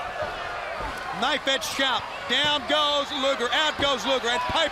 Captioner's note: crowd chatter